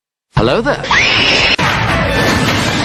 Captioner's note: screams